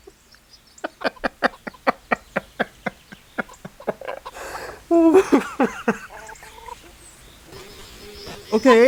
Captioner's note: laughter